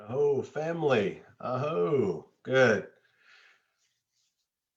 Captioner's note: speaks indigenous language